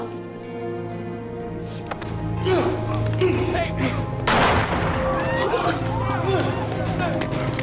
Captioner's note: GUNSHOT -Brett shoots Jake